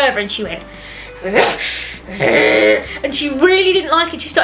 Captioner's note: angry growling noises